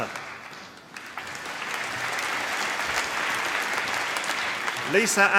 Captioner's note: applause